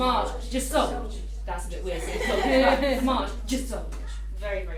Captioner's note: children laughing